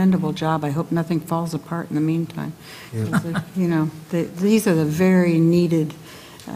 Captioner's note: laugh